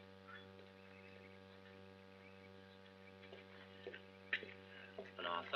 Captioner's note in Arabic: خطوات